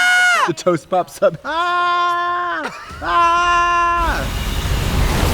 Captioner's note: Trixie screams; Katya screams; tense music